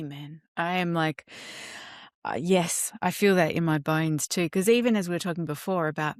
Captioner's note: inhales deeply